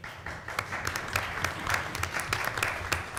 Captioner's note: applause